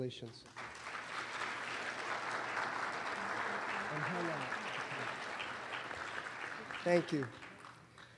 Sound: applause

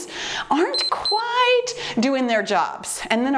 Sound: timer beeps

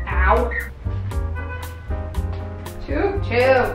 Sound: car honks in distance

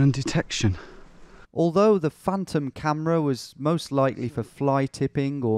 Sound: voiceover

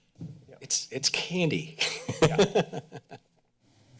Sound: laughs

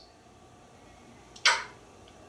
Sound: smooch

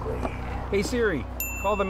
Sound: phone beeps

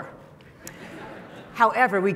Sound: audience laughing

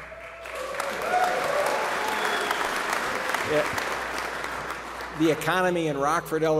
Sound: applause

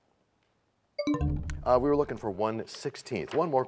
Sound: bell chimes, time expires

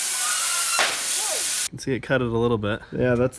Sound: wheel bangs

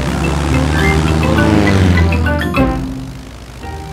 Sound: plane engine revving

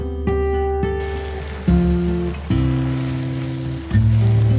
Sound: water pouring

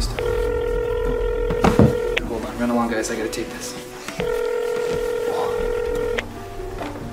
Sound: phone ringing

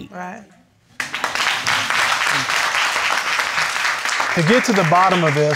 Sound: applause

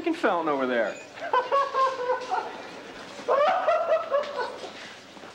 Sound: laughing

